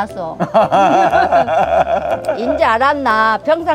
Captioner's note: both laughing